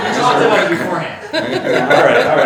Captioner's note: all laughing